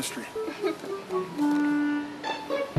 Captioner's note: cashier giggles